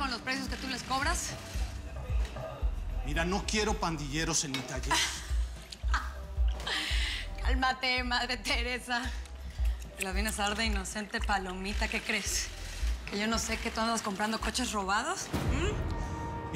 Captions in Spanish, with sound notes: CON LOS PRECIOS QUE TÚ LES COBRAS... >> MIRA, NO QUIERO PANDILLEROS EN MI TALLER. [RISAS] >> CÁLMATE, MADRE TERESA. TE LA VIENES A DAR DE INOCENTE PALOMITA. ¿QUÉ CREES, QUE YO NO SÉ QUE TÚ ANDAS COMPRANDO COCHES ROBADOS, HUM?